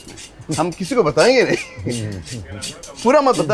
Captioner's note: speaks in foreign language